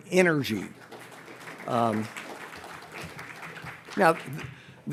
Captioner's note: audience applauds